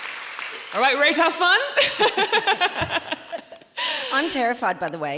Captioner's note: audience applauding; laughs